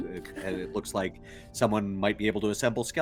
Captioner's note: Cornette laughs